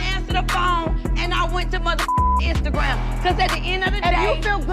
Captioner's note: beep